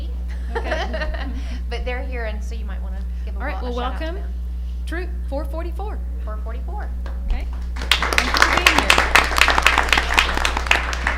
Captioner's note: applause